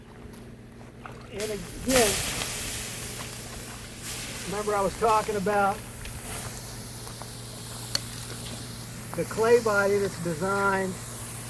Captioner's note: water sizzling